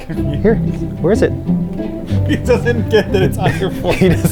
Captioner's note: laughing